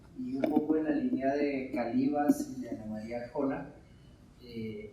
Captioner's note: speaking in Spanish